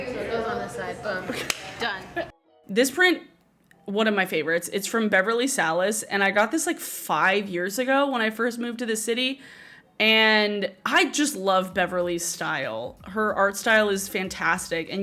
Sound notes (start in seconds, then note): 1.4 claps